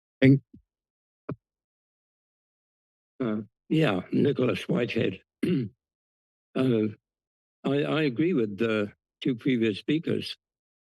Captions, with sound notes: - Thank you. - Uh, yeah, Nicholas Whitehead. [Throat clearing] Uh, I, I agree with the two previous speakers.